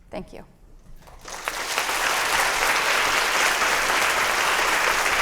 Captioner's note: applause